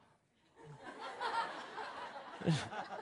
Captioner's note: Laughter; 笑聲